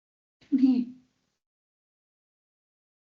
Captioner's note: audio muted